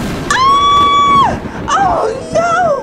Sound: narrator screams

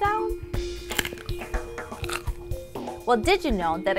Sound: crunching

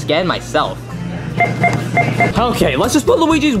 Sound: machine beeping

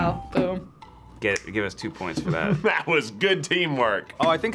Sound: laughs

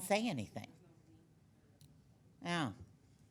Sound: woman speaking faintly

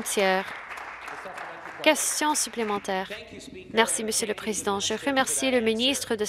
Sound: some Applause

